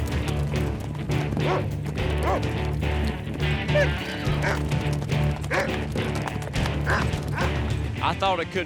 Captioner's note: horse trots off; dog barks